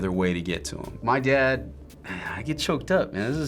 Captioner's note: sighs